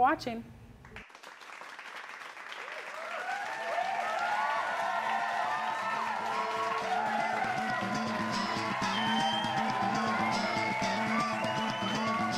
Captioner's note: applause